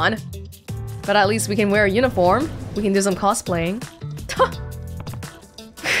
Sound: chuckles

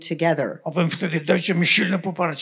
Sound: foreign language

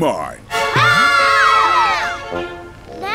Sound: screaming

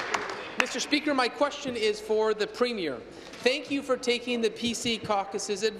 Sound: applause

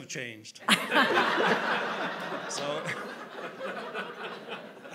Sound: audience laughing

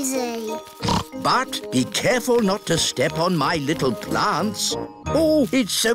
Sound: snorts

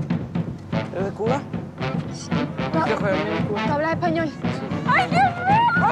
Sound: Lupe and Esti speak in Spanish

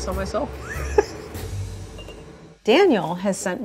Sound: laughing

